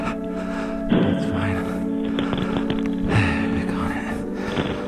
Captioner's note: breathing heavily